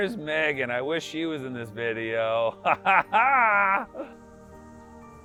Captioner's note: laughs